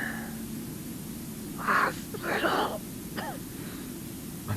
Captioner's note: cough